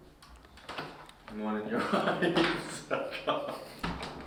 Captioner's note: laughs